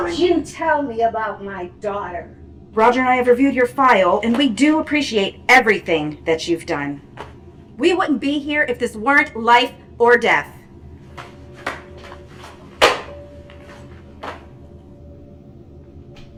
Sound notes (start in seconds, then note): 12.8 gloves slamming